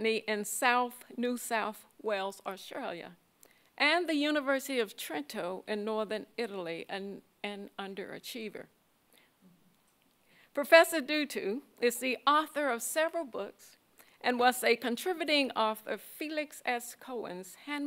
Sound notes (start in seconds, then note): none